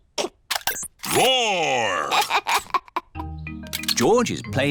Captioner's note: giggles